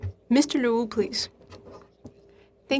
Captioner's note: speaking FRENCH